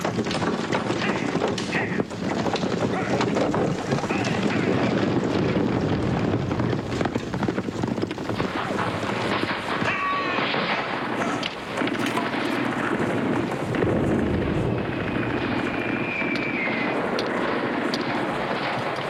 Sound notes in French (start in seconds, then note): 4.5 Explosion